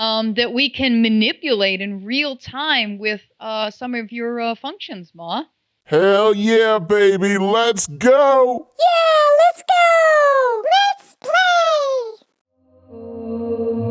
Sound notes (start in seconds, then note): 8.2 Maw voices echo